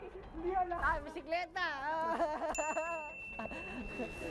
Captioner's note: laughing; laughs